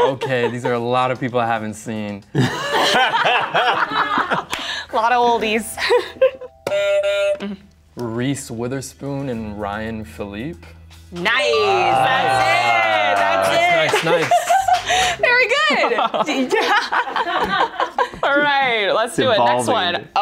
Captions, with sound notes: - Okay. These are a lot of people I haven't seen. (laughter) - Lot of oldies. (buzzer sounds) - Reese Witherspoon and Ryan Philippe. - Nice. That's it. - Nice. - Very good. All right. Let's do it, next one.